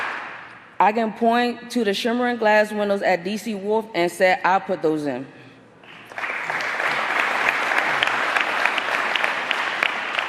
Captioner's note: applause